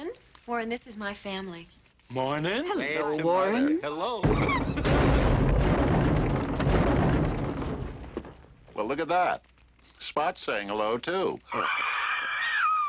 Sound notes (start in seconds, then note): 4.2 banging